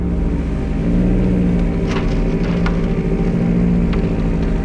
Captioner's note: car revs